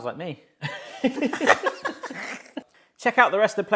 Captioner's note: both laughing